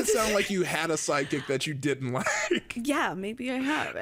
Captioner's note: laughs